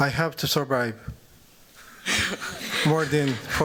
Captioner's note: laughter